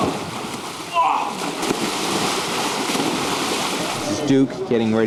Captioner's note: splashing and grunts